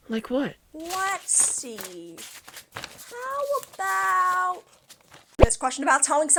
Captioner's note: shuffling with papers